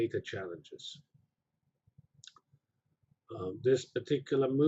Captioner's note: pause